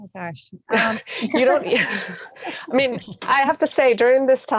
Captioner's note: laughing